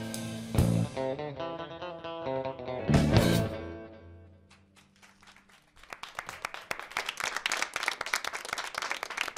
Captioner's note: applause